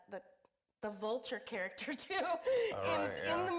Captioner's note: laughs